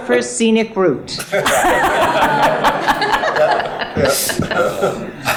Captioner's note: all laughing